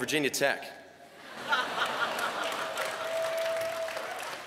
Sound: laughter

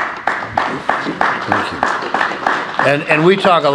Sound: applause

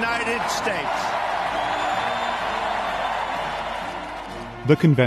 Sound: cheers and applause

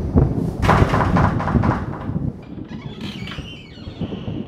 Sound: knocking

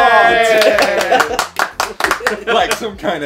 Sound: clapping

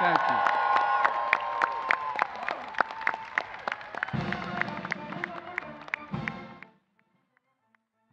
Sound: applause

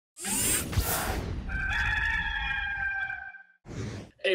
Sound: rooster crowing

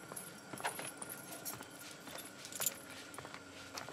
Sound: keys clinking

